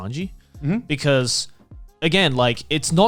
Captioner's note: affirmative murmuring